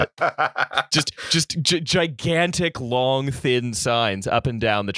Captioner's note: laughter